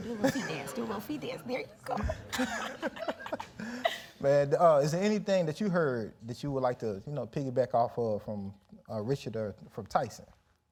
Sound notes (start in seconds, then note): 1.9 laugh